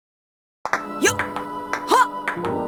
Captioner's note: table tennis grunts